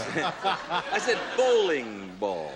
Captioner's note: laughter